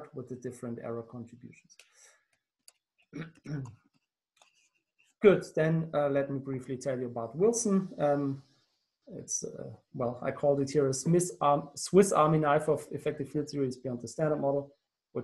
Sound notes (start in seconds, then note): 3.1 clears throat